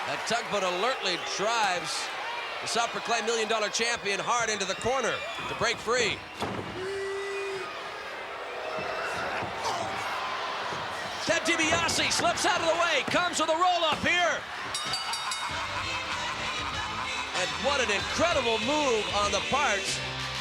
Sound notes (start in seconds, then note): 14.6 bell dings